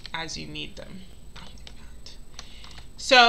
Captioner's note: keyboard clicking